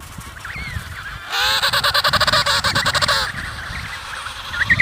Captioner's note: penguins making calling sounds